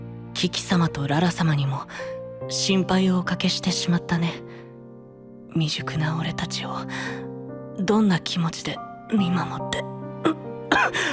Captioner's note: cough cough